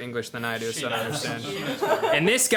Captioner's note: group laughing